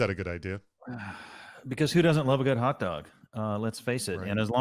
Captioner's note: sighs